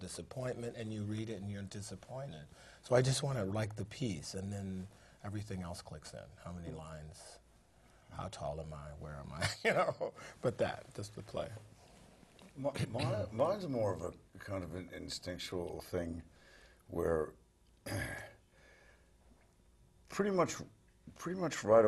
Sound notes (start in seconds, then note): 8.9 laugh; 17.8 cough